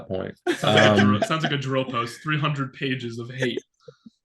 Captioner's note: laughing